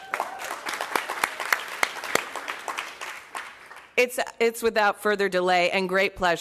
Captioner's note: applause